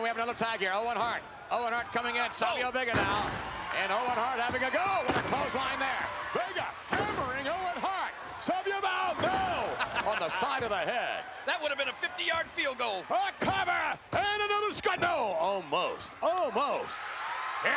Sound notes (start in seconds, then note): 9.9 Jerry chuckling; 16.9 spectators cheering